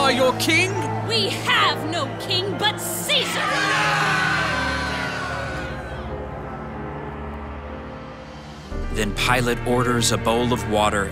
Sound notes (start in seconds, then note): 6.9 mob yells